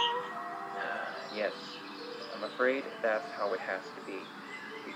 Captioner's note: sighs